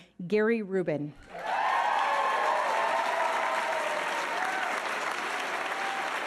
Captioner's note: audience cheering and applauding